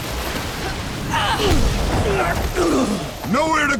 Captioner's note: grunting